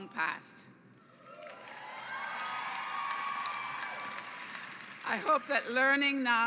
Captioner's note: cheers